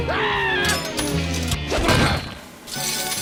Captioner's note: change clanks